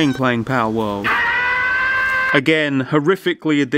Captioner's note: Pal screams